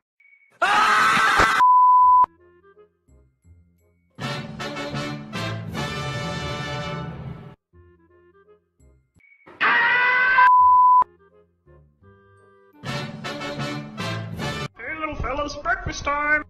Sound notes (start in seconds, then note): 10.5 beep x2